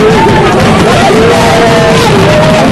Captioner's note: fireworks exploding